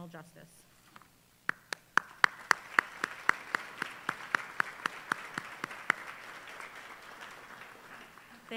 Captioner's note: applause